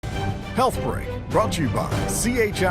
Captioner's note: voiceover